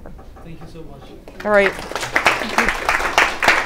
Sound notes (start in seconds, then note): 1.2 applause